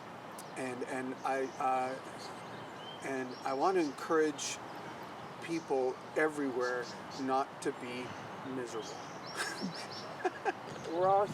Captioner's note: laughs